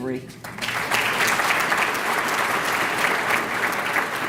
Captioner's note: applause